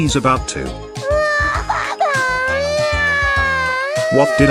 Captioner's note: Neco-Arc Wailing